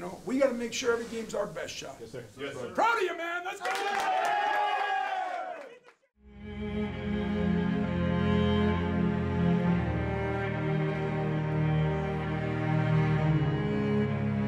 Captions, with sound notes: We gotta make sure every game's our best shot. Proud of you man! (cheering) (slow music)